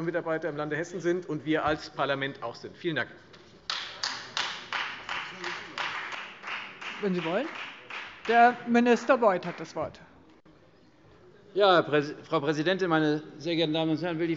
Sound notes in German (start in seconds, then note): 3.6 Vereinzelter Beifall Freie Demokraten